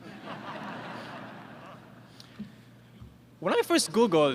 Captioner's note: laughter